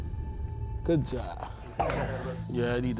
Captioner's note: coughing